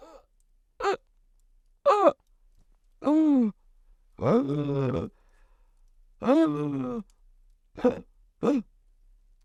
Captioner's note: dramatically grasping for breath